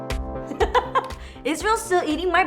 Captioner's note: laughs